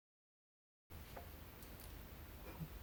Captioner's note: none